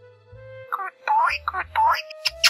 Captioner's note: air-kissing